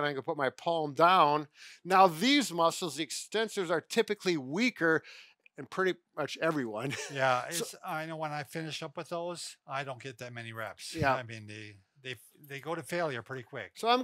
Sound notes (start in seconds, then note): 6.8 laughs